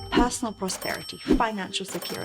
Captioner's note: money chimes